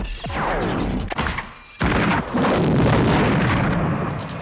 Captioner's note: weapon firing